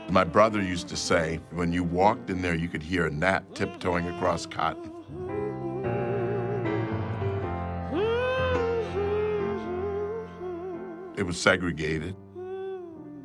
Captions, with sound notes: My brother used to say, "When you walked in there, you could hear a gnat tiptoeing across cotton." [vocalist humming] It was segregated.